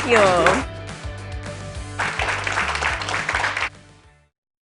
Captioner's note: applause